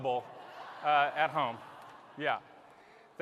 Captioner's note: laughter